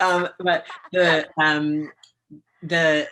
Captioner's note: laughs